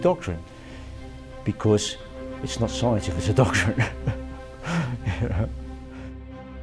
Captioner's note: laughs